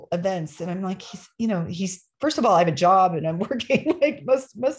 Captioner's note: laughter